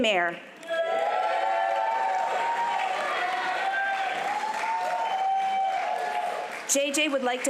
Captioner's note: applause